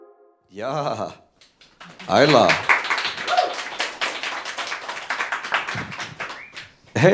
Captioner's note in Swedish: Applåder